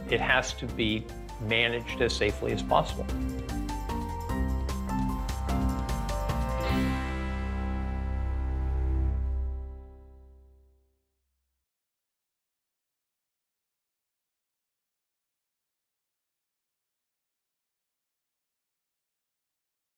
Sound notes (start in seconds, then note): 17.1 silence